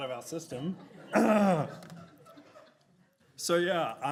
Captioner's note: clears throat